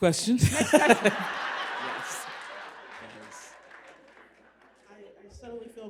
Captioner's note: applause and laughter